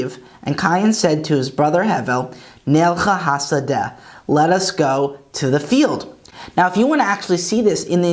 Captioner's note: Hebrew; Hebrew